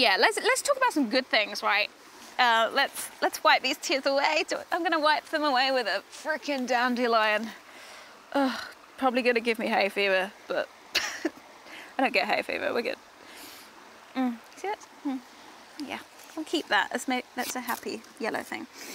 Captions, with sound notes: Let's talk about some good things, right? Let's wipe these tears away. I'm gonna wipe them away with a freaking dandelion. Probably gonna give me hayfever. I don't get hayfever, wiggit. (sniffles) See that's, hm-- We'll keep that, it's a happy yellow thing.